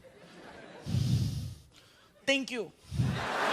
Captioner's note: exhaling